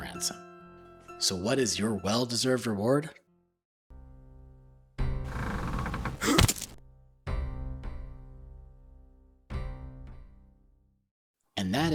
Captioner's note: rope creaking sounds